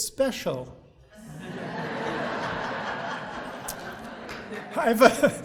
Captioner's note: audience laughing